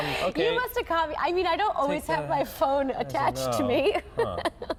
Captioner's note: laughter